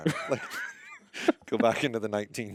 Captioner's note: laughing